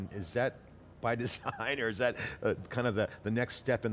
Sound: laughs

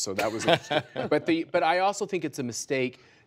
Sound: laughter

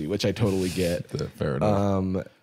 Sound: none

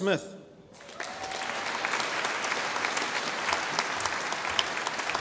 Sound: audience applauding

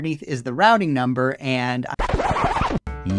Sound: record scratch

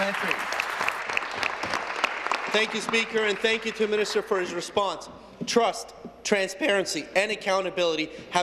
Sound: applause

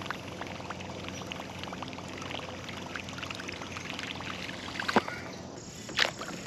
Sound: lure puttering on the water

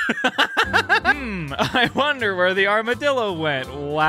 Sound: laughing

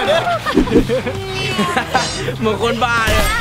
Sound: chuckles; laughs

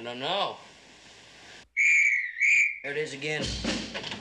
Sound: whistle blows

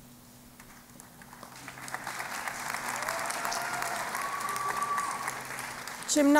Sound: applause

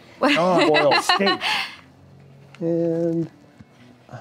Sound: laughing

